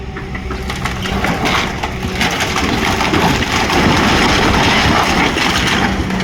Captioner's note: very angry excavator noises